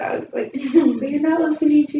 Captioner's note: laughter